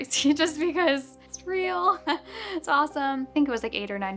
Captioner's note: chuckles